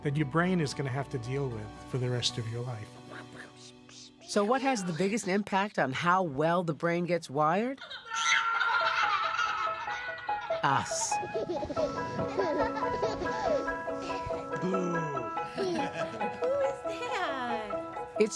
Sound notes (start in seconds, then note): 8.9 baby laughs; 12.1 baby laughing; 13.5 bright music